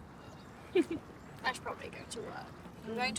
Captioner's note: giggling